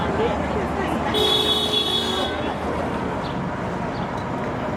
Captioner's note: car horn blares